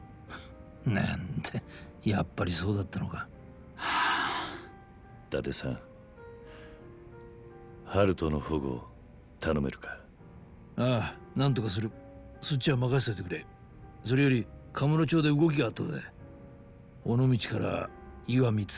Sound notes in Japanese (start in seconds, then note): 3.8 ため息; 6.4 息をのむ音